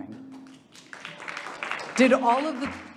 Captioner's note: audience applauding